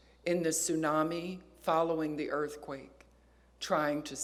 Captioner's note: none